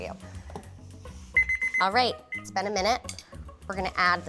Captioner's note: timer sounding